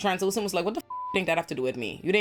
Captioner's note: beep